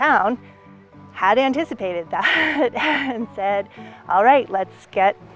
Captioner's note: chuckles